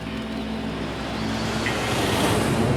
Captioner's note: none